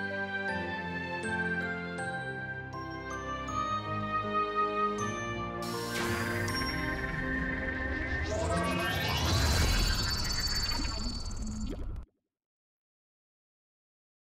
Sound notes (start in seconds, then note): 0.0 gentle music continues; 6.0 video whirring